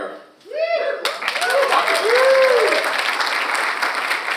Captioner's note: audience cheers